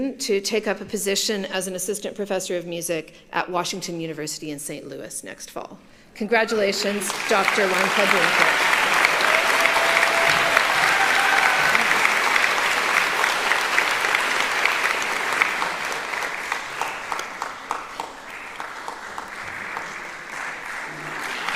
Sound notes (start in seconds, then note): 8.3 applauding; 9.8 cheering